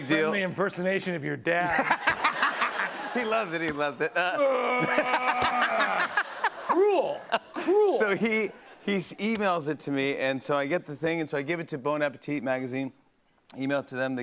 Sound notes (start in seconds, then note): 1.6 laughter; 4.2 roars